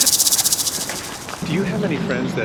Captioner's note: snake rattles